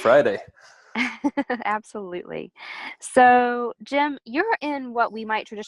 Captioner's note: chuckles